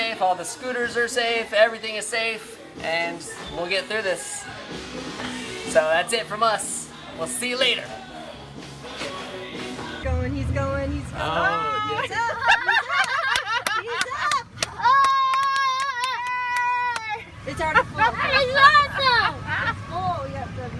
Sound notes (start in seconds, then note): 12.0 laughing; 14.6 cheers